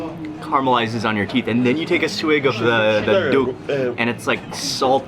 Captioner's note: speaks in foreign language